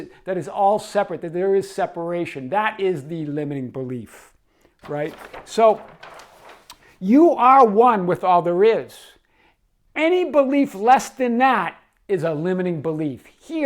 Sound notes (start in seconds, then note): 4.7 paper rustling